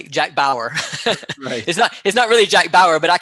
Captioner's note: laughing